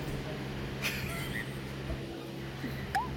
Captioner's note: giggling